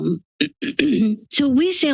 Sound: clears throat

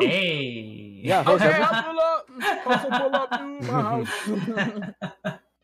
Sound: laughing

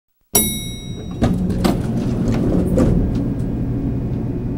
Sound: elevator bell dings

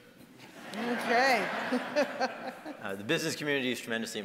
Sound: audience laughing

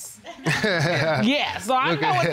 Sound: laughing

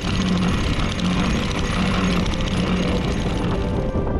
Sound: anchor whirs

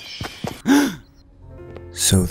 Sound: Tanner gasps

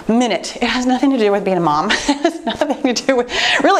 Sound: laughing

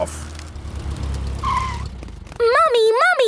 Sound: tires screeching

